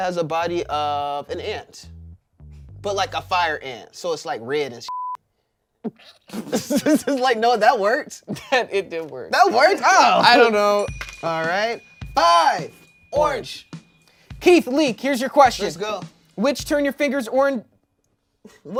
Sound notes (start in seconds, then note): 4.9 beep; 6.2 everyone laughs